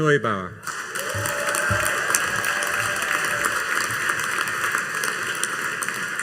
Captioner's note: audience cheering and applauding